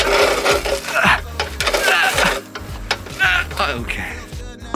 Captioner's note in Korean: 끙끙거리는 소리